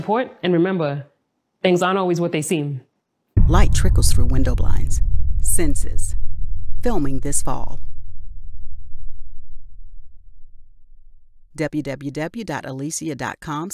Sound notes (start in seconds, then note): 7.9 rumbles and fades out